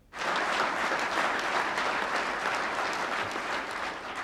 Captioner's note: audience clapping